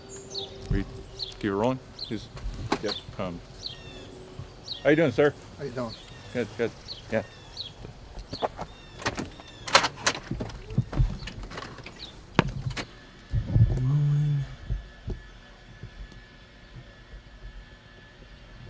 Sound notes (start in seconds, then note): 8.9 clic de puerta; 14.8 zumbido de la máquina